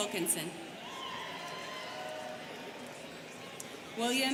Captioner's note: students cheering